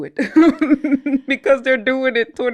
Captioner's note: laughs